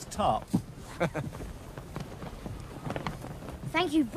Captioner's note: chuckles